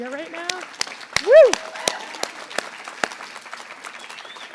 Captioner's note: applause